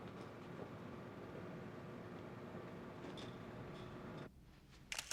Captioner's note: camera clicking